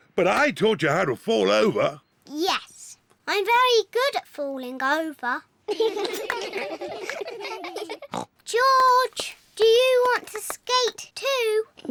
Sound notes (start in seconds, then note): 5.7 all giggle; 8.3 snorts